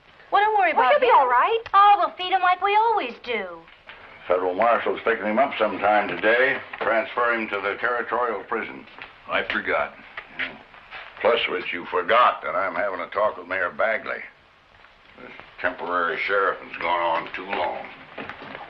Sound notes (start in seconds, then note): none